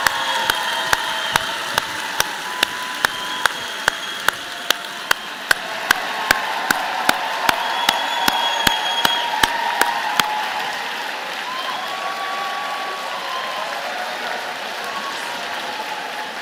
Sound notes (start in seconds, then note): 4.5 applause